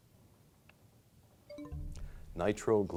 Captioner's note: bell chimes, time expires